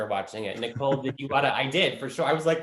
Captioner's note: laughing